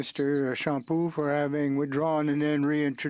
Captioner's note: speaking French